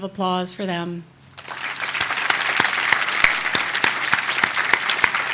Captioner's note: audience applauding